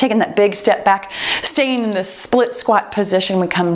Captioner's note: timer beeps